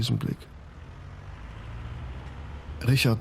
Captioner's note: vehicle departs